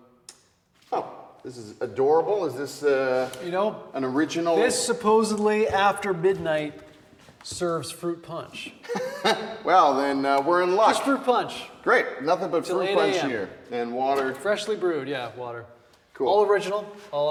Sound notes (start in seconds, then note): 8.8 Wes laughs